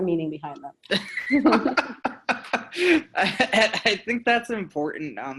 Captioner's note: both laughing